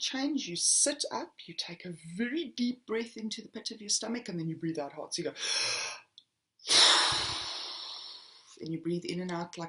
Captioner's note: blows out